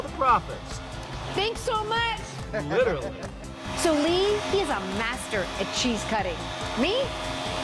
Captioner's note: laughter